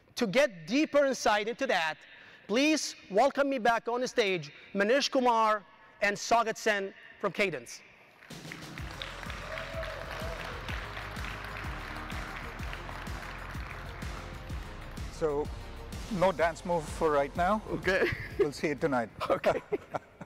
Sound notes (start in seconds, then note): 8.2 audience applauding; 8.3 audience cheering; 11.0 upbeat music; 19.1 chuckles